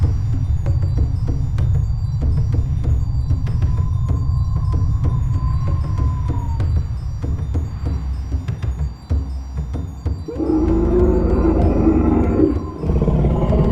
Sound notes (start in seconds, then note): 0.2 drum beat music continues; 4.0 wind howling; 10.3 dinosaur growling